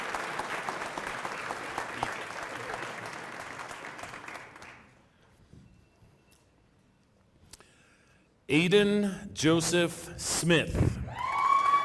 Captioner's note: applause